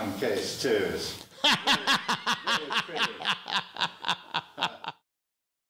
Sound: laughs

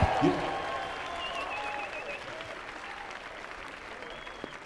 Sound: audience clapping

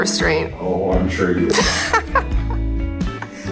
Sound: laughing

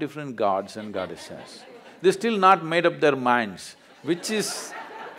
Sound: laughter

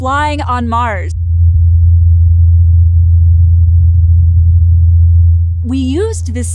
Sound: helicopter rumbling faintly

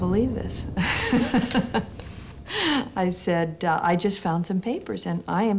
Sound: laughs

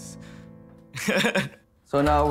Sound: laughing

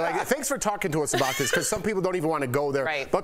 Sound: laughter

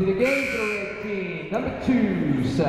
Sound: whistle blowing; buzzer sounding

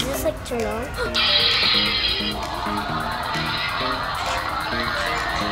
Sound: toy making noises

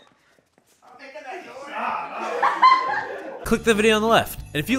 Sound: moaning; muttering and laughter off set

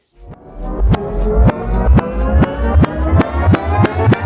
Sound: rewind sound

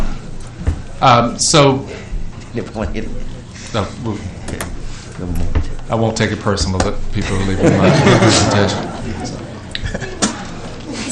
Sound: laughter

